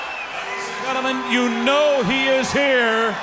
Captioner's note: crowd cheering